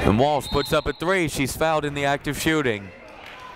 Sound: whistle blowing

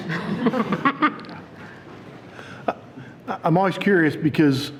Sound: people laughing

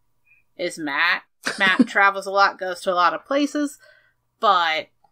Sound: laughs

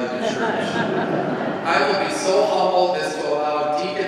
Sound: congregation laughs

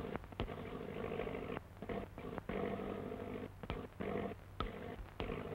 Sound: engine sputtering

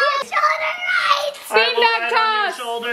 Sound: screaming; laughing

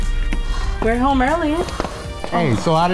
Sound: voiceover

